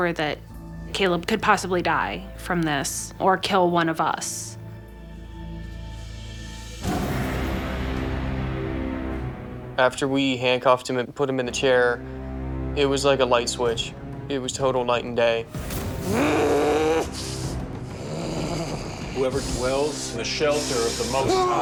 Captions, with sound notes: could possibly die from this or kill one of us. (dramatic music) - After we handcuffed him and put him in the chair it was like a light switch. It was total night and day. (growling) - Whoever dwells in the shelter of the Most High